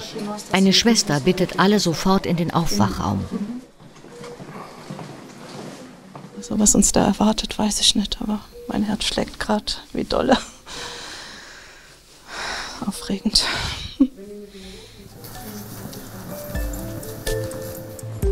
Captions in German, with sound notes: Eine Schwester bittet alle sofort in den Aufwachraum. Was uns da erwartet, weiß ich nicht, aber mein Herz schlägt grad wie dolle. (ausatmend:) Aufregend. (Abwartende Musik)